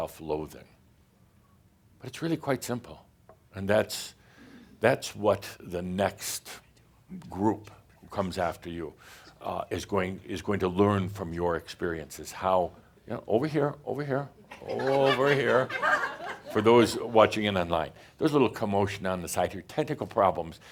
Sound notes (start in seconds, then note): 14.5 some chuckles